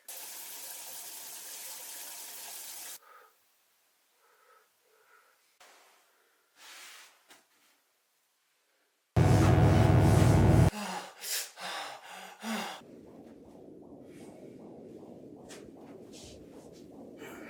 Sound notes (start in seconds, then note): 0.1 water falling; 9.2 electric buzzing; 10.9 Phil panting; 12.8 heart beating